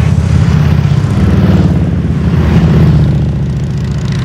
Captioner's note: motorcycles engines roar